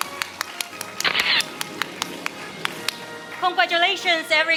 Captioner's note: camera shatters